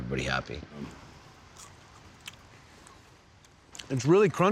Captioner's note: crunching sound